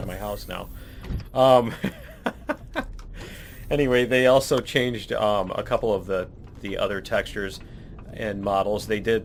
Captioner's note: laughs